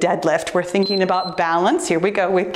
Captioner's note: timer beeps